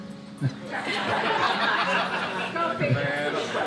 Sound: group laughs

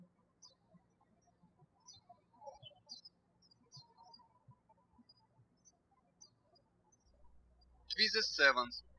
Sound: birds chirping

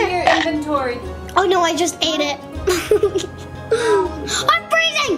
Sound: laughs

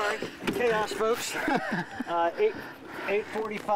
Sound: laughing

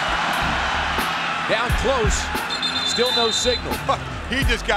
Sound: whistle blows

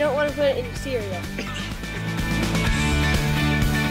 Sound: laughing

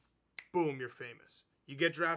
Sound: fingers snapping

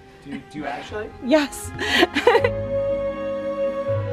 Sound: laughs; soft, magical music

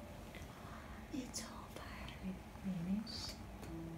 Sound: whispering

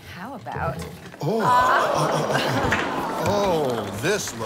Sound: audience oohs and ahhs

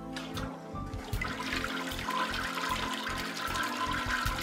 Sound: gurgling toilet

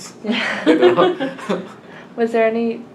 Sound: all laugh

